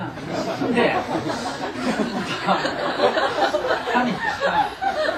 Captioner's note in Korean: 청중 웃음